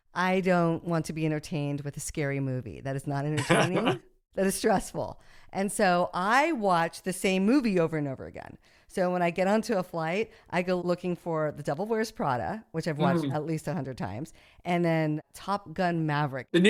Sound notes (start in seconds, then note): 3.4 laughs